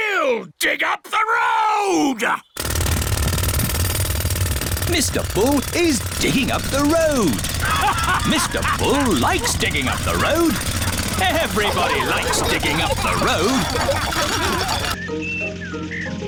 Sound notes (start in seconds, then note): 2.9 drilling; 8.0 all laughing; 14.2 laughter